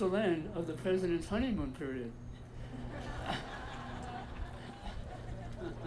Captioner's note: audience laughing